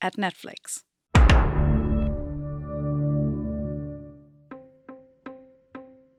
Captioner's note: Netflix intro sound plays